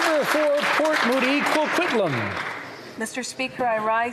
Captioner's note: applause